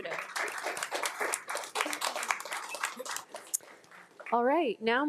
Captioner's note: attendees and board members applauding